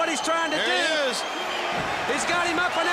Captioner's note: crowd cheering